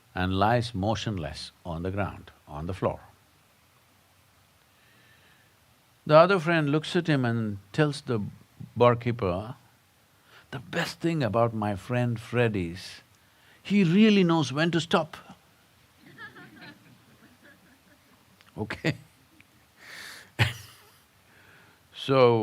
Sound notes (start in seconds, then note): 16.0 few laugh; 20.4 laughs